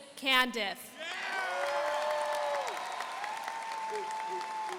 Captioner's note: audience applauding